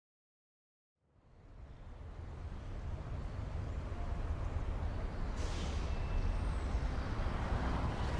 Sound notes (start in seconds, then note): 0.0 cars driving